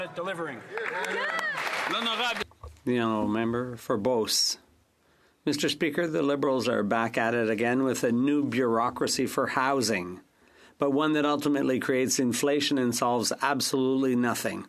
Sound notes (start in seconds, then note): 10.3 speaking French